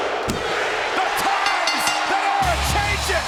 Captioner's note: bell rings